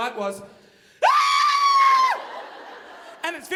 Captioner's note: screaming